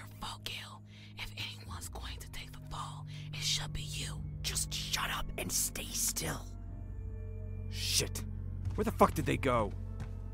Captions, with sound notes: If anyone is going to take the fall, it should be you! GALE (Whispering) Just shut up and stay still. [FOOTSTEPS RECEDING] FLETCHER Shit. Where the fuck did they go?